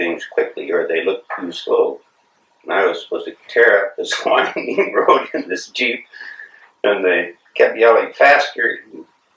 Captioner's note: laughs